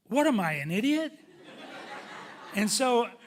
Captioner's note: audience laughing